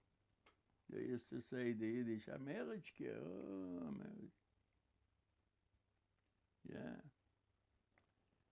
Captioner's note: yiddish